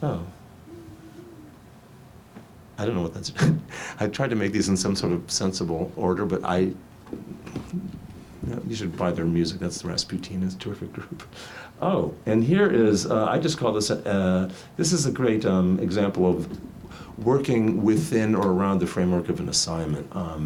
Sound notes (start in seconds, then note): 3.2 laughs; 10.9 chuckles